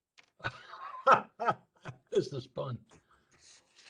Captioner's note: laughter